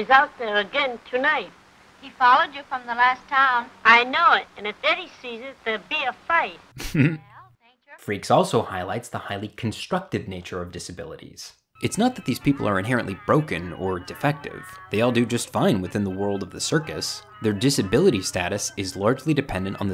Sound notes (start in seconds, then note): 6.7 narrator laughing